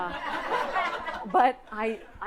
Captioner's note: audience laughing